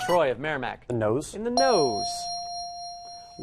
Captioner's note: ding